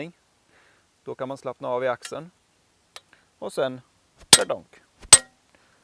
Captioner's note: peening